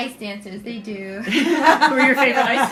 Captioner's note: laughter